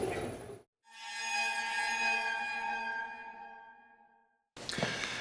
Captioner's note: spooky sound effect